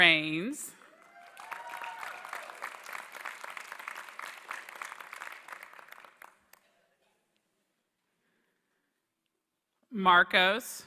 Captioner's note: applause